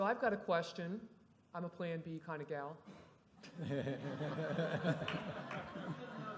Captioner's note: laughter